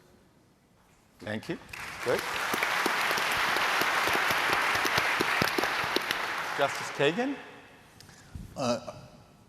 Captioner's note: applause